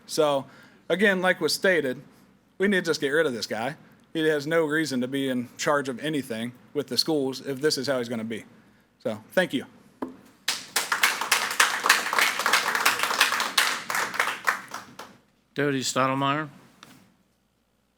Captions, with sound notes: So again, like was stated, we need to just get rid of this guy. He has no reason to be in charge of anything with the schools if this is how he's gonna be. So, thank you. (audience applauding) - Dody Stottlemyer.